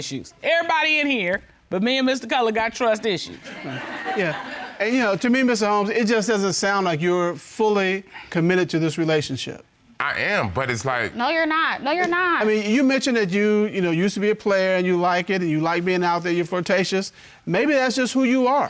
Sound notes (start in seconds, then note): 3.4 audience laughing